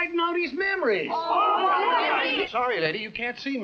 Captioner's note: angry chattering